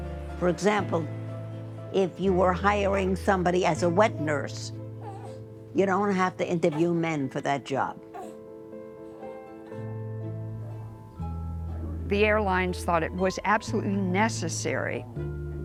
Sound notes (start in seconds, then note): 8.0 baby fussing